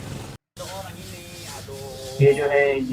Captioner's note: hawker talking in Malaysian language